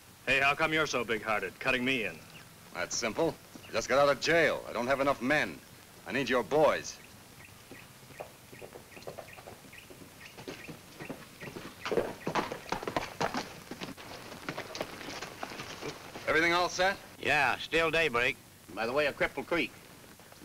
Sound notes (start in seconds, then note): 7.3 bird tweets; 9.5 hooves clomp